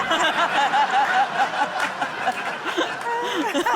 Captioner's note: laughter